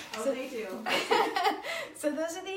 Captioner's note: laughs